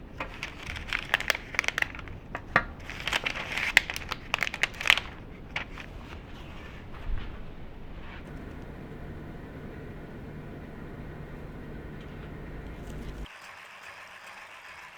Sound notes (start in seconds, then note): 7.3 eating